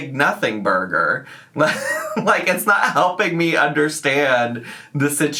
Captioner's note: laughs